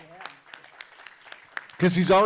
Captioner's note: audience applauding